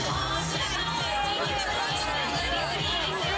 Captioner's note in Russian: песни, гул разговоров, выкрики